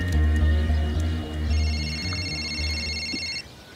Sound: cellphone rings

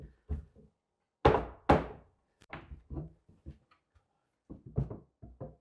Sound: resumes hammering

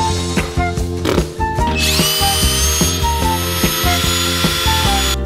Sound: pipes clattering; blows raspberry

